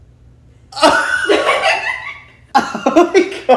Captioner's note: all laughing